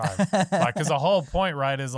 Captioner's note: laughing